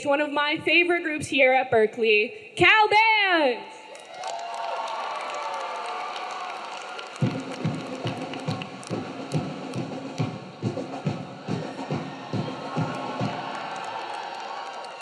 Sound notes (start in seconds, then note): 3.9 audience cheering; 3.9 audience clapping; 7.2 band musical music